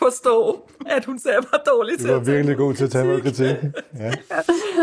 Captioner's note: laughs